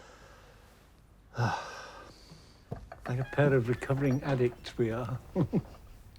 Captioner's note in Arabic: تنهدات